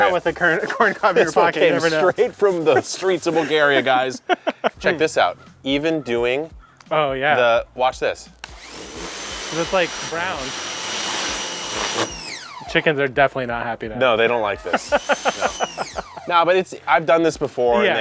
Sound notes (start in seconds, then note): 14.2 laughing